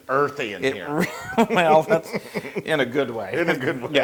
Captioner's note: laugh